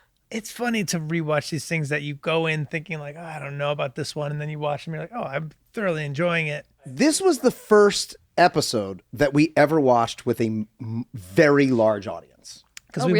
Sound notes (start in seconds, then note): none